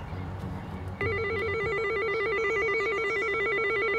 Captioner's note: doorbell ringing